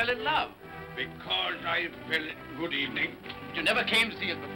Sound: mocking

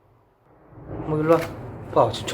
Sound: thunder strike outside

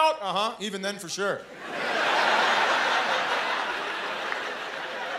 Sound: laughter

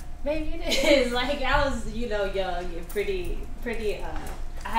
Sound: laughs

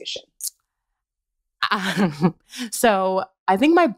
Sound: laughter

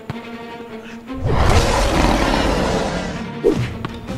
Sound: lion roar

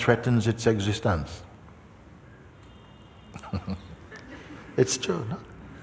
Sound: laughter

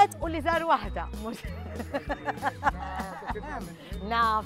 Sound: laughs

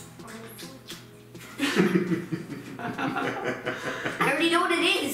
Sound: laughing

